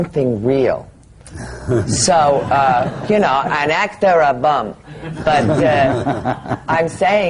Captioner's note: laughter